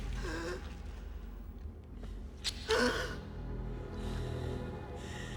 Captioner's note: gasping Continues